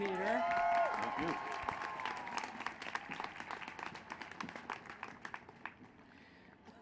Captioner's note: applause